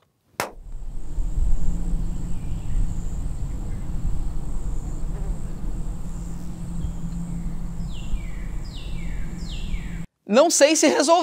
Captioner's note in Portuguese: som ambiente de pássaros e moscas